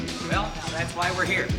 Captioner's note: groans